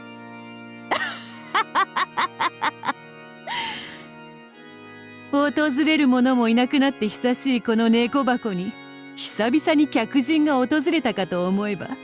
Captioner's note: cackle